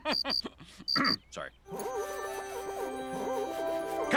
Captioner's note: bike squeaking; triumphant music